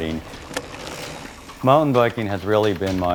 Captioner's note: bicycle gears whirring, leaves rustling